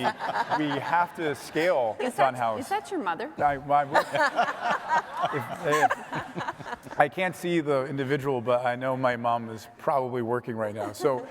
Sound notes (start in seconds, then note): 0.0 others laughing; 3.9 all laughing